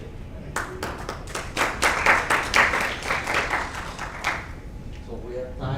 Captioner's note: audience clapping